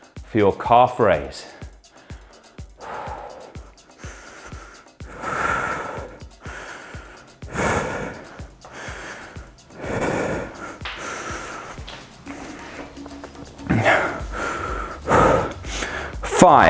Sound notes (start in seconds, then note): 2.7 sighs; 6.3 panting and sighs